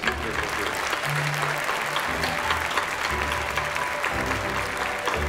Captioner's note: applause